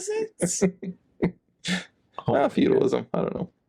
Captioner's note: laughing